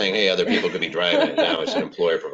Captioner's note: laughs